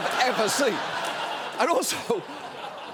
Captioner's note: audience laughing